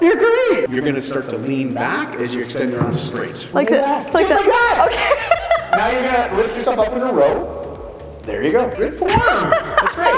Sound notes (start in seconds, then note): 4.9 laughs